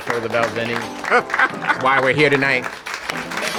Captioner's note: laughing